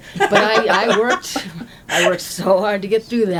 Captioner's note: laughter